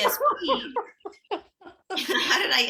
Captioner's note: laughing